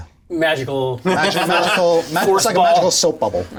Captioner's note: all laugh